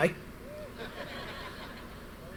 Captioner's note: audience laughter